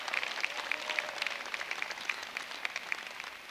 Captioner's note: applause